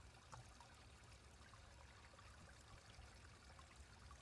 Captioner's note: water continues flowing